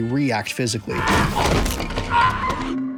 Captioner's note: man screaming; suspenseful music